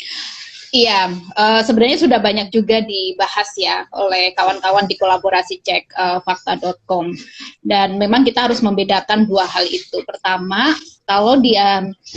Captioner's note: non-english speech